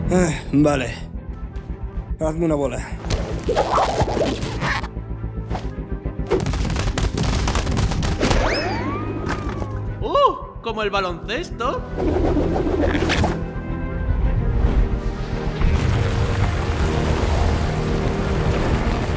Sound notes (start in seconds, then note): 3.0 rubbery squeaking